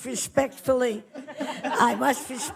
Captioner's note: audience laughs